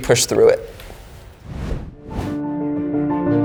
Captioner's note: whooshing; gentle music